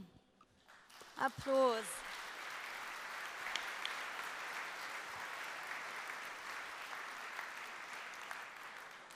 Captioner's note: applause